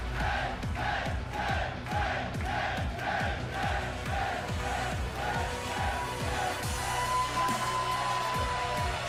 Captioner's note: fans chanting